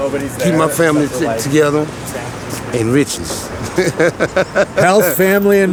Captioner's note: laughs